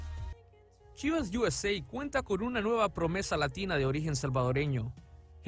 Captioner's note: speaking in Spanish